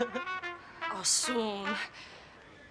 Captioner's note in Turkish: Almanca konuşma